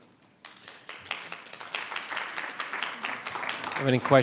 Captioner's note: all clapping